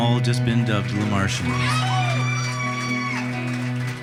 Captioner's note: audience applauding and cheering